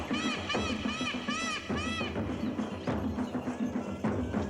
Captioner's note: música con tambores; graznidos; música con tambores